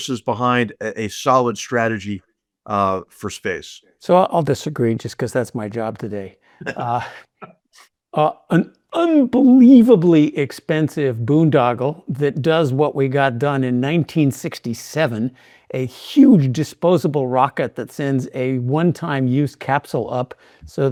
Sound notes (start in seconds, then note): 6.6 laughing